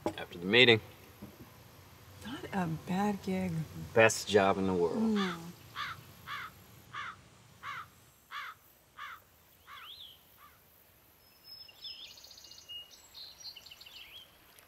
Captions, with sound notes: - After the meeting. - Not a bad gig. - Best job in the world. - Mmm. (birds chirping)